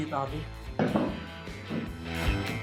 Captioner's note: plate drops